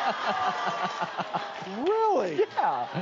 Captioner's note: laughs